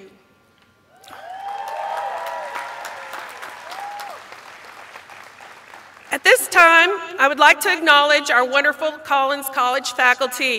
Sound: cheers and applause

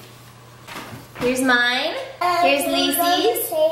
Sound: baby babbling

